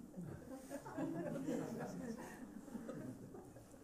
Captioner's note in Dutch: gelach